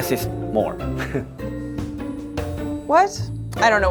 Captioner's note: chuckling